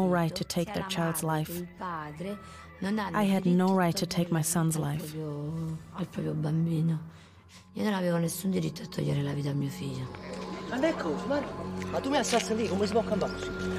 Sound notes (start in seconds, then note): 7.0 speaking in Italian